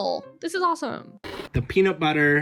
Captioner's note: TV noise